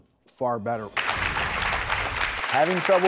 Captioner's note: audience applauds